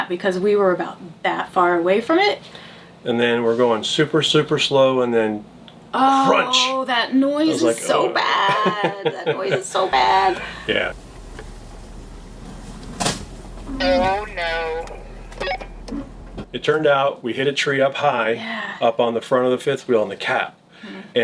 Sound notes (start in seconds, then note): 8.3 chuckles; 13.2 bang